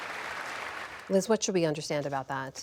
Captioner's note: applause